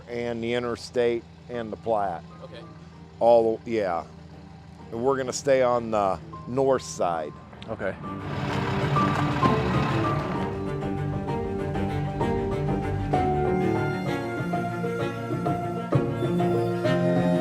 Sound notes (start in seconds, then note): 8.0 truck revving; 8.0 intense music